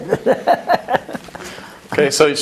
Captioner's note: laugh